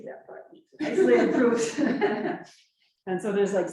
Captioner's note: laughs